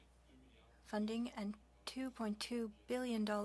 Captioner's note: speaking French